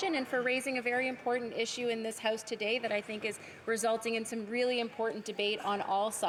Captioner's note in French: voix de l'interprète